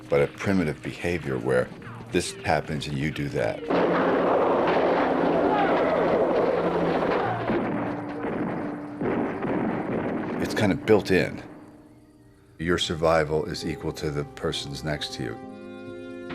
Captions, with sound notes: but a primitive behavior where this happens, and you do that. [gunfire] It's kind of built-in. Your survival is equal to the person's next to you.